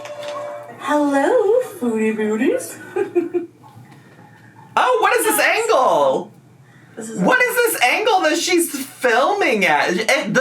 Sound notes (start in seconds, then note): 2.7 laughs